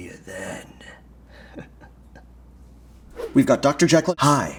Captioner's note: chuckles